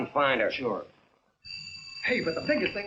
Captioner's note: phone ringing